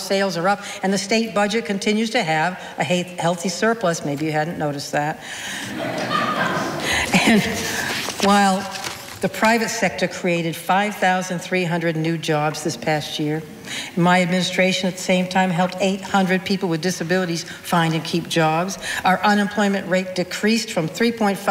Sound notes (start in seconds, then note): 5.5 audience laughing